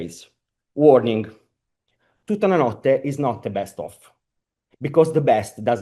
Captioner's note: italian